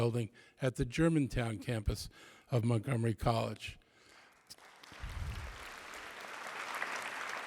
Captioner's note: applause